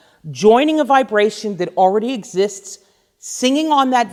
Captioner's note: none